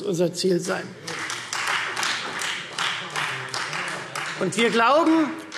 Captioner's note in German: Beifall Freie Demokraten